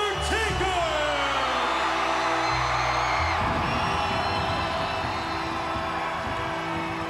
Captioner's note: crowd cheering; eerie music